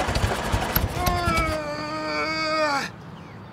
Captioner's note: Travis groaning